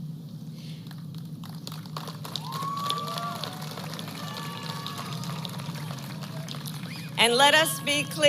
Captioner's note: applause